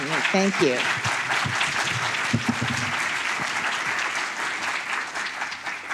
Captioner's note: audience applauds